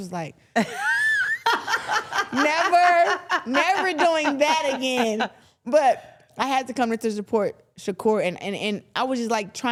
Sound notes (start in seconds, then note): 0.5 laughing